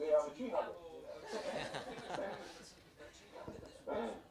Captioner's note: laugh